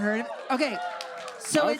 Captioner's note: audience cheers